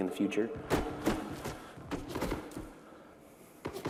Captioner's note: gunfire